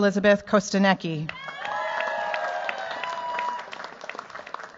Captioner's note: cheers, applause